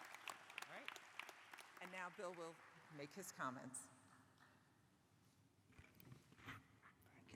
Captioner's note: applause